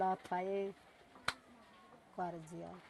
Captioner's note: claps hands